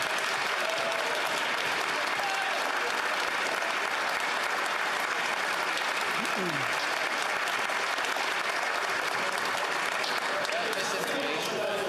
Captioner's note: some Applause